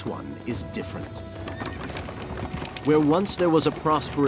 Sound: horse neighing

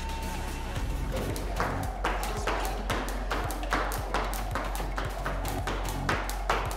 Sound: feet stomping; whirring noise

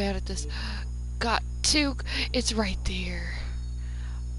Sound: gasp; gasp

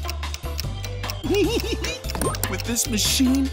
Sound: laughing

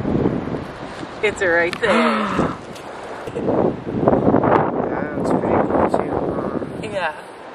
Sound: gasps

